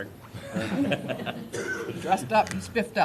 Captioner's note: laughter